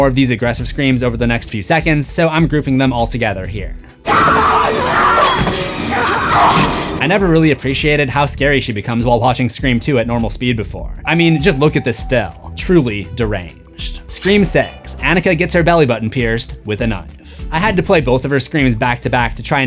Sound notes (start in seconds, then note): 4.0 screams